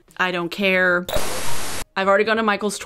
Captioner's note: electronic static